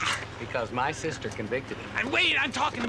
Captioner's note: winces